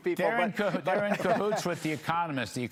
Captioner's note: laughter